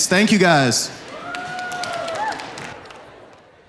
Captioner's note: applause